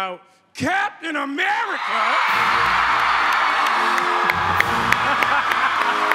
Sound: shouting; cheers and applause; applause; orchestral opening

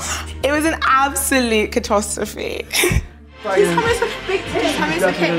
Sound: laughs

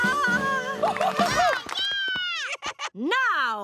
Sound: cheering

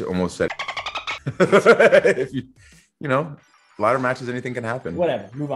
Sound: laugh

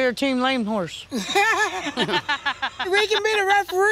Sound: laughter

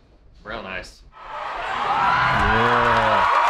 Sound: crowd cheers

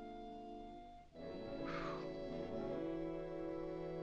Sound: tense whimsical music; exhales in relief; tense whimsical music

